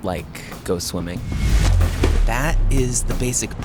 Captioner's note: computer-generated whooshing